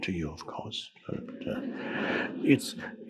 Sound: audience chuckling

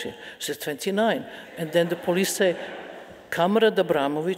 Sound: speaking in foreign language

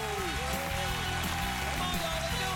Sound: cheers and applause

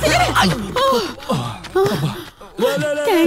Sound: panting

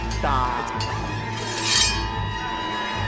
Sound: shing

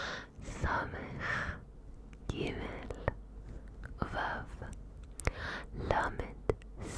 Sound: whispering the letters in Hebrew

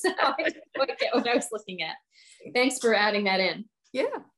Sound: laughing; laughs

